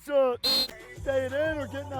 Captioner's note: whistle blowing